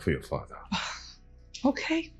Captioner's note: scoffs